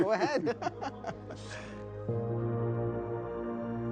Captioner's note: laughs; gentle music